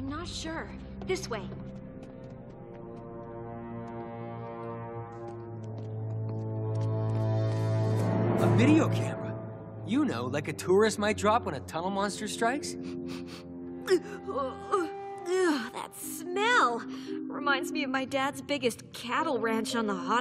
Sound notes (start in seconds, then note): 12.9 sniffing